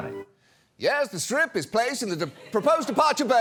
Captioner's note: mimicking narrator